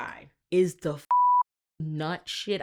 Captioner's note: beep